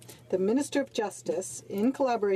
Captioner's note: speaking in French